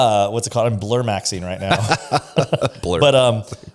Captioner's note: laughs